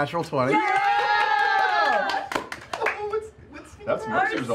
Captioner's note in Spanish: vítores